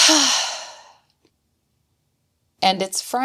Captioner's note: sigh